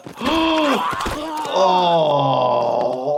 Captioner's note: doctor gasps